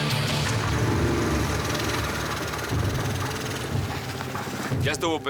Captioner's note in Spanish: ruido del motor del go kart